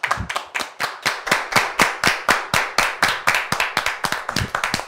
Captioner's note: everyone clapping